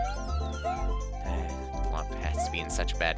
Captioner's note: sigh